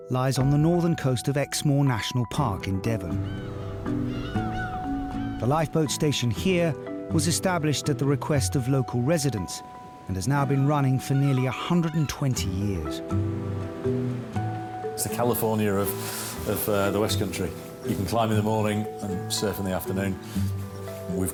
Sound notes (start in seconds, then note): 3.1 seagulls shrieking; 13.2 uplifting instrumental music